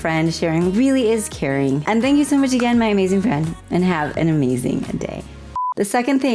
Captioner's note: blooper beep